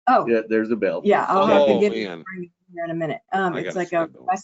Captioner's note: audio distortion